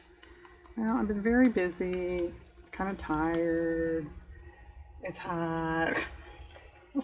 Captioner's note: laughs